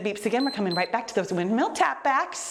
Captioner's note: timer beeps